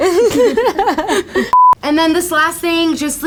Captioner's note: laughing